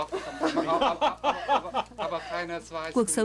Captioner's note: laughter